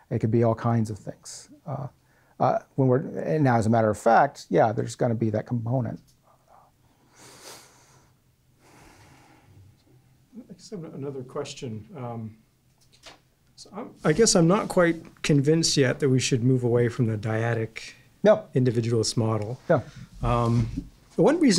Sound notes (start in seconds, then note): 10.9 voiceover